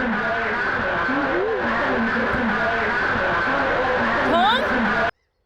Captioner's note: chattering echo